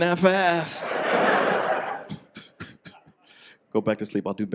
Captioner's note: audience laughs